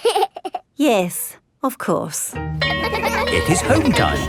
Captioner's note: giggles; school bell rings